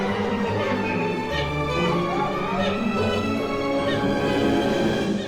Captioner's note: dramatic music; Merrill squeaks cuckoo